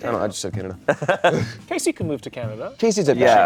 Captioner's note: laughs